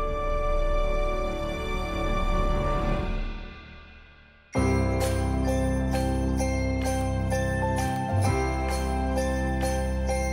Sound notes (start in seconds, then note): 4.5 upbeat festive music; 4.5 bells jingling